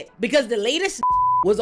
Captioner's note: beep